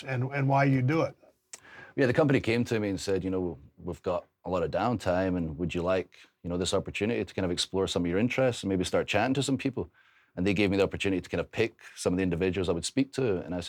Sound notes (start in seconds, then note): none